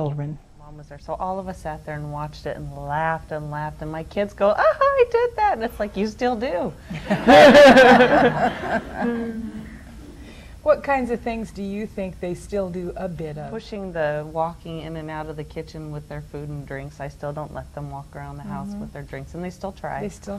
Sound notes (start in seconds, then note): 6.9 audience laughs; 6.9 they laugh